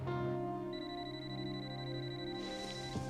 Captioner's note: phone ringing